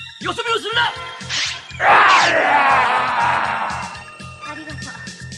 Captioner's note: SFX: sword strokes